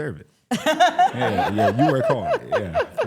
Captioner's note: laughs